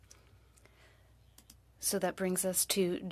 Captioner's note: speaking French